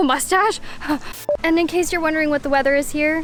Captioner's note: screen beeping